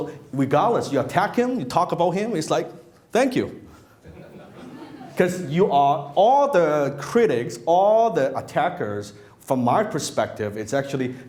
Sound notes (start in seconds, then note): 4.1 laughing